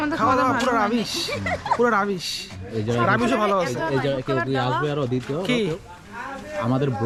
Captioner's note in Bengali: সশব্দ হাসি